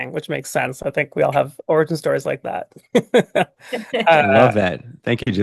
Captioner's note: laughs